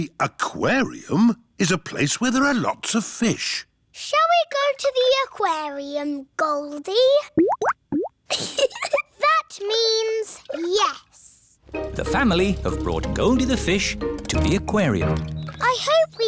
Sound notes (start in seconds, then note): 7.3 bubbling; 8.3 giggles